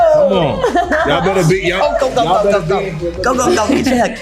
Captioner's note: overlapping chatter